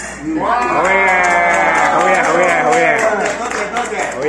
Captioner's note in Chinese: 掌聲